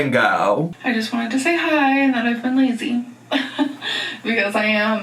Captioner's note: laughs